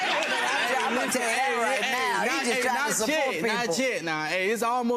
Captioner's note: audience laughter drowns out the conversation